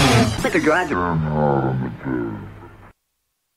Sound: sped up voice

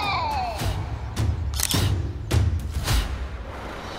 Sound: camera clicks

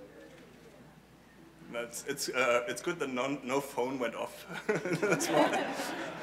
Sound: laugh

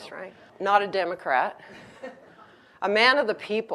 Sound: audience laughs

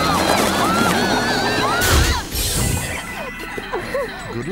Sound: all screaming

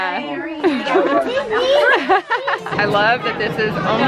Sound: laughs

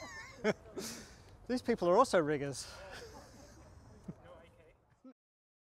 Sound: laughs; laughs

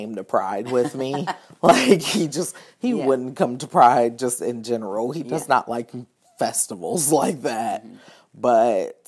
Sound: both laughing

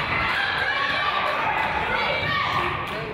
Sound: claps

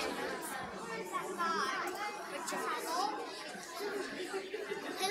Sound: kids chattering

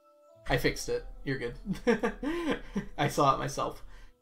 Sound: laughs

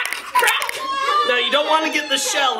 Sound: egg shells cracking; child screaming; child laughing

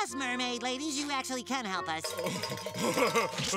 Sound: laughs crudely

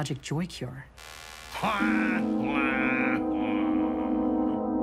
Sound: quacking laughter

